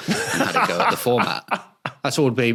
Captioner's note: belly laughs